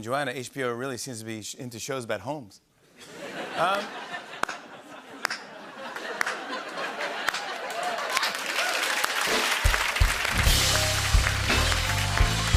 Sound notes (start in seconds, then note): 2.9 laughter and slow clap; 8.1 cheering and applause